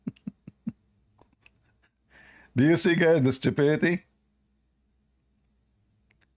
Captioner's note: Ketawa